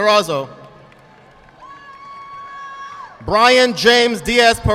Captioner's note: audience clapping